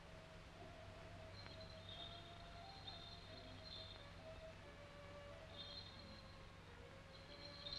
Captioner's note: serene music; bells jingling